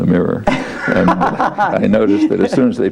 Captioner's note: laughs